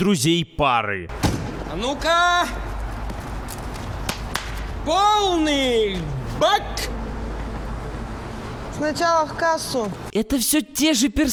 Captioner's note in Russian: хлопает дверцей; хлопки